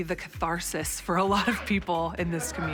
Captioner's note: laughs